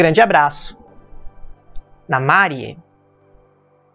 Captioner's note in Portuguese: élfico